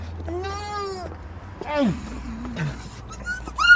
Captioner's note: squeals and playfights